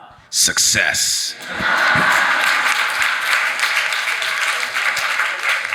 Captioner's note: audience applauding